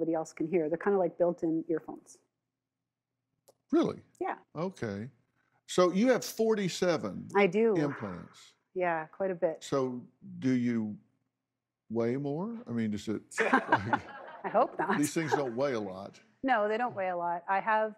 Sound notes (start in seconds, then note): 13.4 laughs